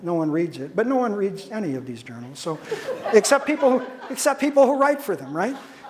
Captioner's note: audience laughter